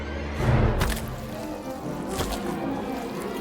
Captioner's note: wet squelching